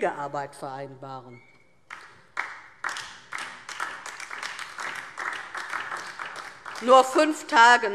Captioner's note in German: Beifall DIE LINKE und vereinzelt SPD